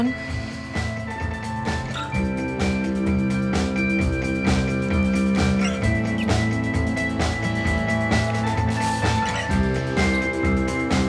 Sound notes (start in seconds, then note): 0.2 soft music; 4.9 lips smacking; 4.9 soothing music